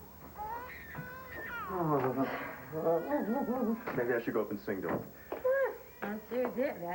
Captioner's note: baby cries